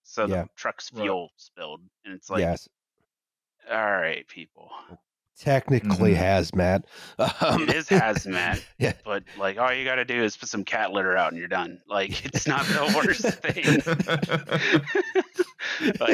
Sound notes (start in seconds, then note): 7.0 chuckles; 15.0 laughter